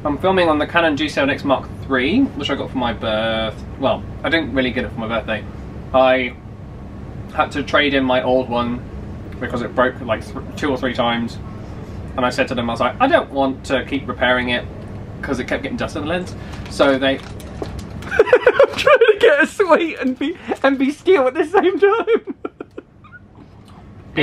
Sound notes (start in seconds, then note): 16.4 packaging rustling; 22.3 laughing